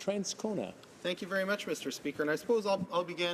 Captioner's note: speaking in french